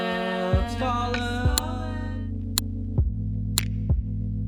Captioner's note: clock ticking